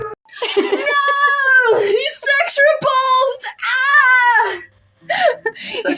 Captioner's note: laugh; gasp; laugh